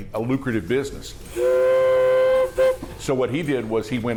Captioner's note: train choo-chooing